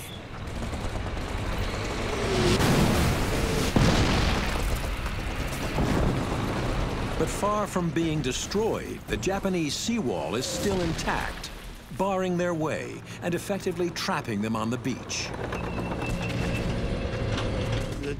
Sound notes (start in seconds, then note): 0.4 rapid gunfire; 2.4 cannon shots exploding; 5.8 tank rumbling; 15.7 tank rumbling